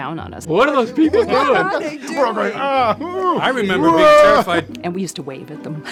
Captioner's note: laughter